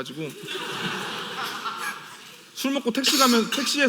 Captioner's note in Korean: 웃음